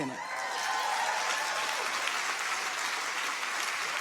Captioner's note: audience applauding